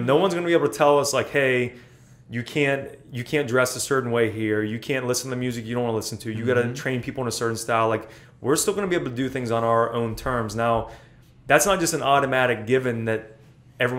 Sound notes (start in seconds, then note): none